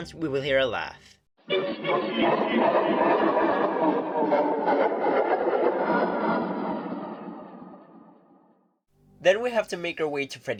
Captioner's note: high-pitched laughter, slowly decreasing in pitch